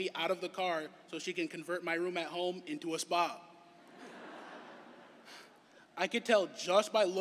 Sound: laughter

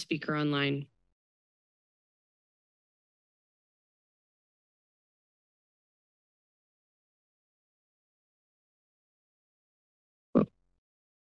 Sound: silence

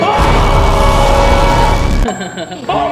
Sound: screaming; chuckles

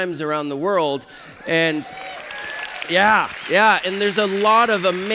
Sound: applause

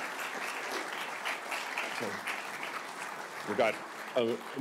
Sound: applause continues

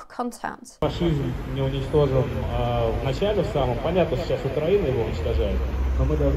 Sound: speaking Russian

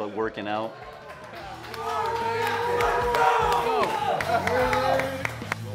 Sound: men clapping and cheering

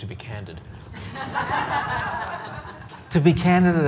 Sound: audience laughs

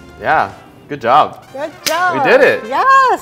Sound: hands slap

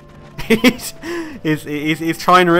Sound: laughs

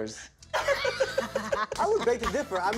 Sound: cast members laugh

